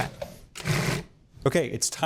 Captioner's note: processor whirring